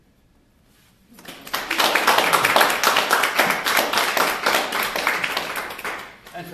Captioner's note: applause